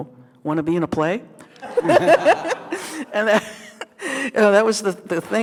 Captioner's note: group laughing